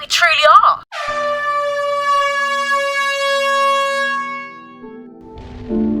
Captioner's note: starting horn blares